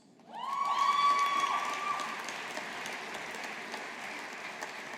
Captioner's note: audience applauding